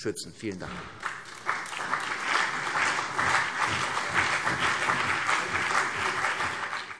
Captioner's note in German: Beifall CDU und BÜNDNIS 90/DIE GRÜNEN